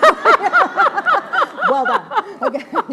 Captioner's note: laughs